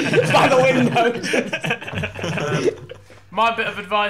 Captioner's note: laughing